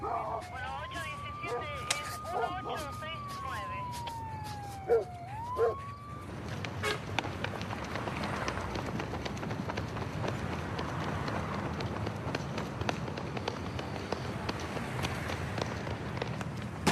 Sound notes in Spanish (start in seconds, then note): 0.1 operadora, por radio; 5.5 ladridos; 6.8 bocinazo